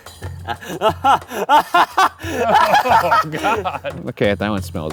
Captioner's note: laughing